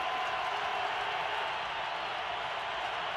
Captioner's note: crowd cheering